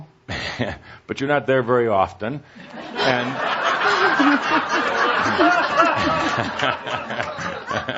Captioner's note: much laughter, chuckling